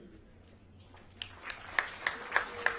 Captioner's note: applause